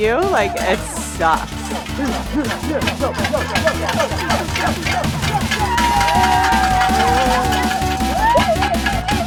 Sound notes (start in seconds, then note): 1.2 spectators cheering